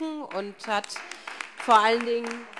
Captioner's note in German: Beifall SPD - Zurufe AfD